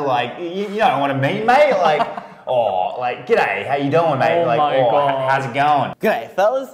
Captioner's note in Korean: 호주 악센트 작렬